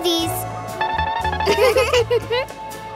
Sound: giggling

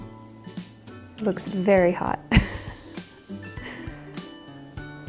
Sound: laughs

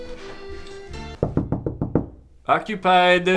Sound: knocking

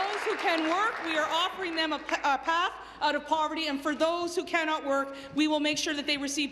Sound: applause

